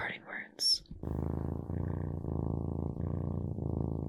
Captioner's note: purring